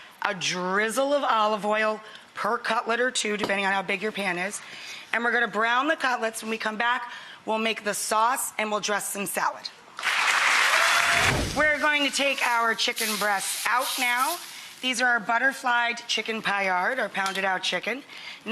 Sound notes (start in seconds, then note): 10.0 applause